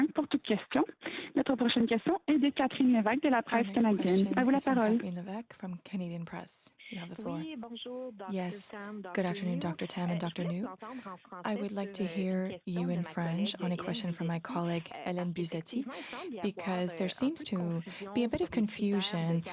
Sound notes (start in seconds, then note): 1.9 speaking French